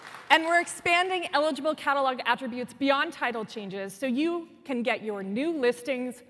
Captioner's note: applause